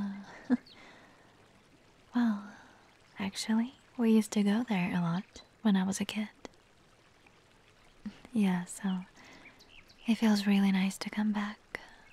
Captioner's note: chuckles